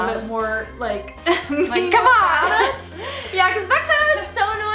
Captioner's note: laughs